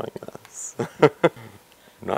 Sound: laughs

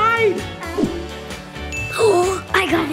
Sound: bell dings

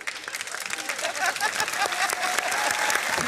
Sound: applause

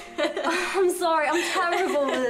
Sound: laughs

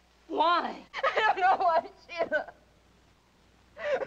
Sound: sobbing

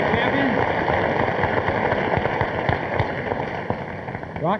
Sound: audience applauding

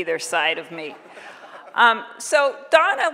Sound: audience laughing

